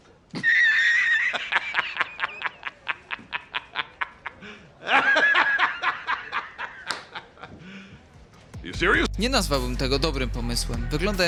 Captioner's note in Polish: śmiech